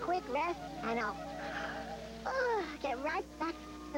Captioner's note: yawn